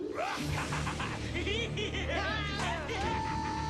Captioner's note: manic cackling